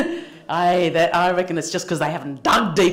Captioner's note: laughter